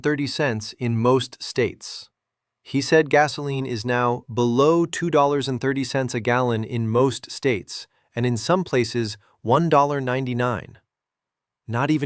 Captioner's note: sarcastic